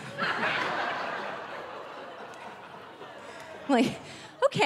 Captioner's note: audience laughing